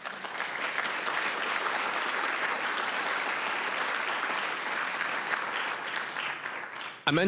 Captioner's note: applause